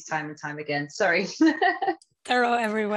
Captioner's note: laughter